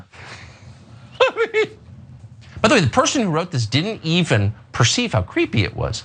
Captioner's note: laugh